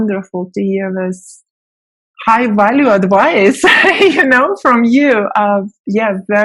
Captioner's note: laughing